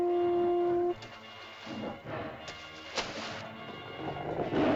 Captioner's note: shell toots; suspenseful music; water splashes; dinosaur snarls; suspenseful music